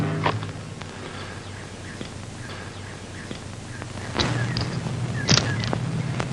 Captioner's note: tense music; birds chirping; bullets clinking